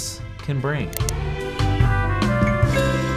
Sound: mouse clicking; tone chimes

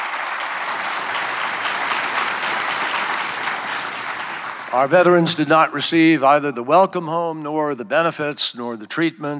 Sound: applause

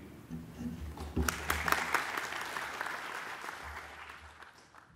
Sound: applause

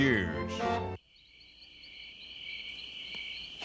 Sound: <i> chirping</i>

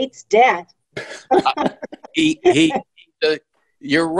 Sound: all laughing

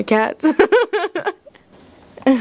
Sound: laughs

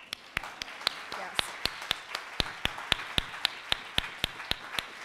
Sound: audience applauding

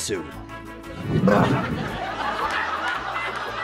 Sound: heaves; audience laughs

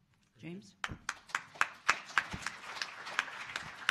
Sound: applause

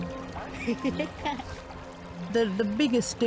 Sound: laughter

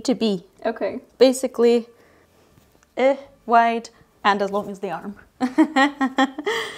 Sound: laughs

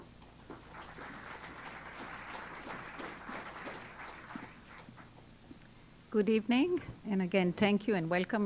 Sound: applause

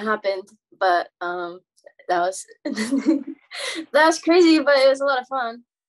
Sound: laughs

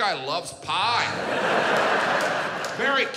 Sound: audience laughs

